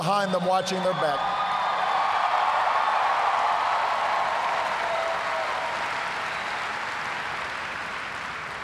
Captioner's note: cheers, applause